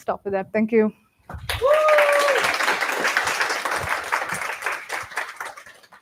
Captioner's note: applause